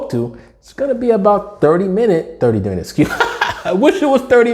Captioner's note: laughing